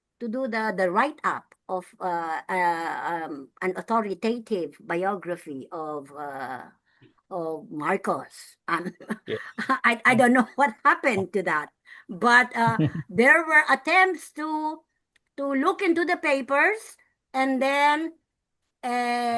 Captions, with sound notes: to do the write-up of an authoritative biography of Marcos. (laughs) I don't know what happened to that, but there were attempts to look into the papers,